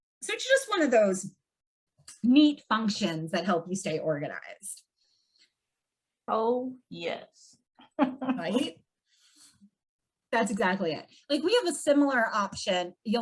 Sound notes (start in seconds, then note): 7.9 laughs